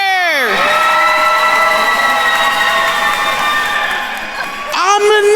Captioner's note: attendees cheering and applauding